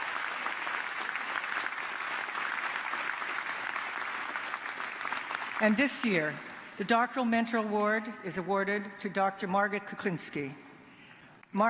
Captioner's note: cheers and applause